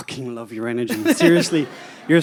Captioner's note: Gary laughs